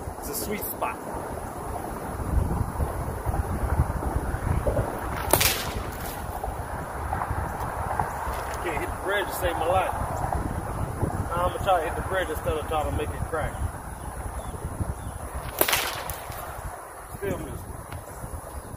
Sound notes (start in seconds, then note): 5.0 whip cracks; 15.4 whip cracks